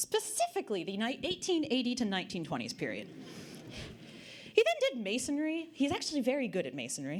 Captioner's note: audience Laughter